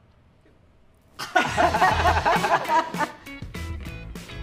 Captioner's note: trainers all laugh